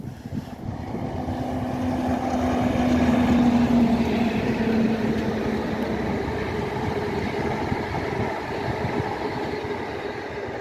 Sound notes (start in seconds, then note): none